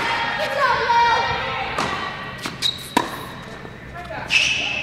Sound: audience cheers

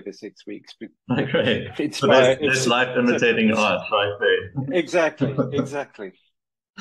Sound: laughs

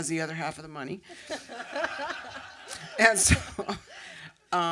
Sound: laughter

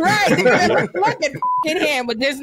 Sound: beep

